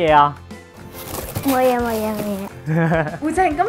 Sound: paper rustling; laughing

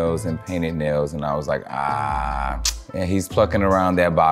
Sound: tuts

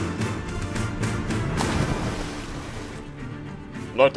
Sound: water spashes

